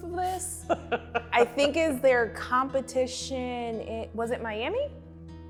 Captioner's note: laughs